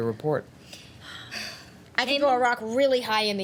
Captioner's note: sighing